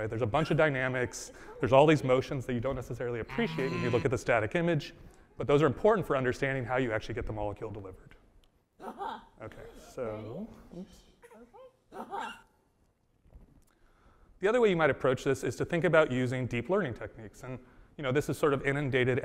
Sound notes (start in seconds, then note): 12.0 baby cooing